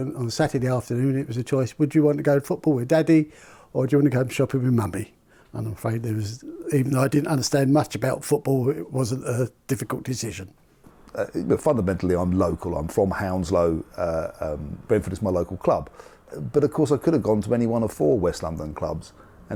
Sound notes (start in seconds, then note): none